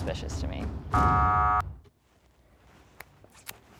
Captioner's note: buzzer